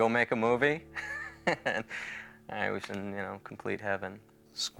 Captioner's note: laughs